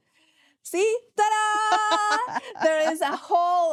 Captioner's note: laughing